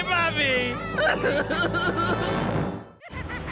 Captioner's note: crying